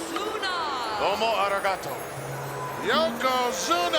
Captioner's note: commentator speaks Japanese